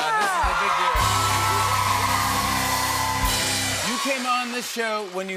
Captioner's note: cheers and applause